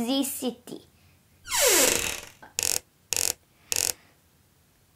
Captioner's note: squeak!